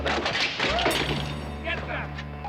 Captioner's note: clattering